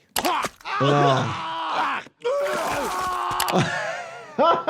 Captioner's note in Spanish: Stewie y Brian gritan; el doctor se ríe